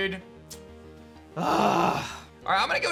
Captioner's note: grunts